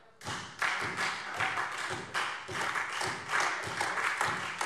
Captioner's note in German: Beifall Freie Demokraten, AfD und vereinzelt SPD